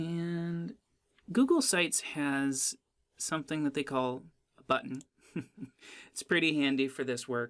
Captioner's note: laughs